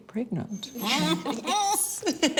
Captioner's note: laughs